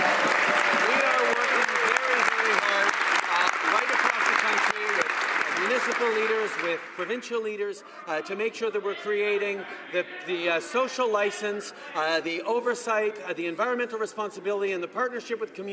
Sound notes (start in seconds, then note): 4.2 some Applause